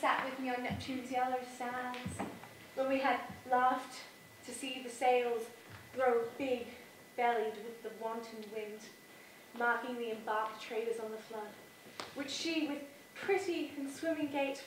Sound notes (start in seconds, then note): none